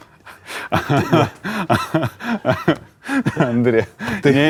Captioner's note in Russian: Смеётся